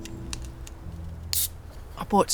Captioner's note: fizz